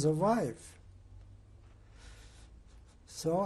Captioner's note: pauses for 3 seconds